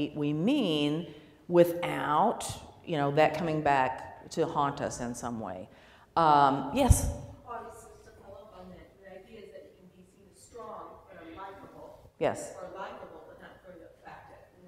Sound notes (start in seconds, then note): 7.6 voiceover